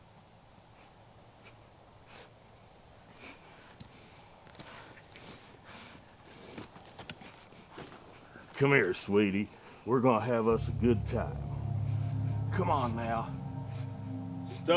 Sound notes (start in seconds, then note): 4.4 footsteps approach; 13.5 ominous music